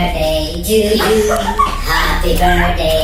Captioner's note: laughing